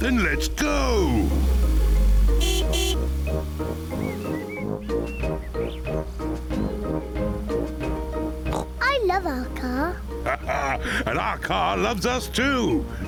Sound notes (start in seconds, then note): 2.1 horn honks; 8.5 oinks; 9.9 laughs